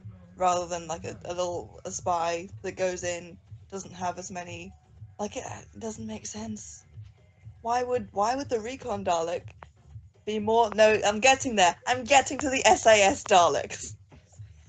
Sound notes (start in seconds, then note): 5.4 groan